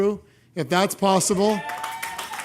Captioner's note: applause